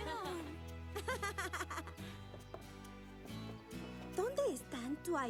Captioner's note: chattering